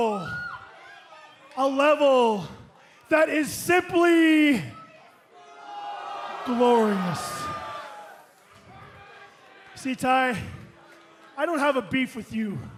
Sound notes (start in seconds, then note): 2.6 crowd chatter